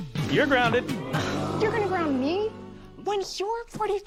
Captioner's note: audience: Oooooo!